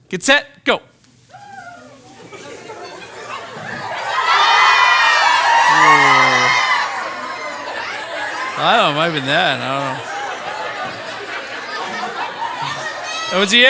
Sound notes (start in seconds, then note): 4.2 participants cheering